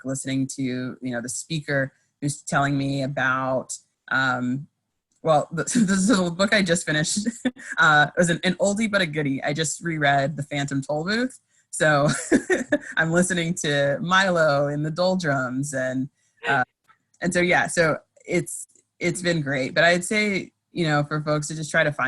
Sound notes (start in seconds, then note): 12.0 laughs